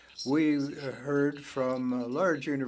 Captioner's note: speaking French